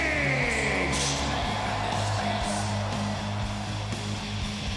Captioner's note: crowd cheers